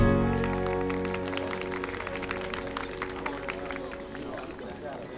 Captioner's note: audience applauding